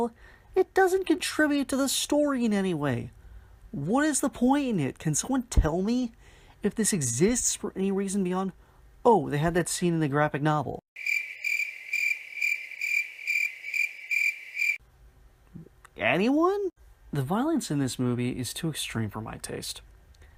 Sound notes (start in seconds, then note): 10.9 cricket noises